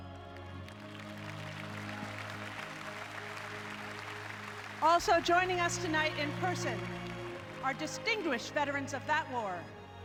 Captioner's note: applause